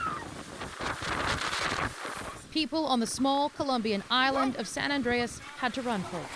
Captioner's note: screaming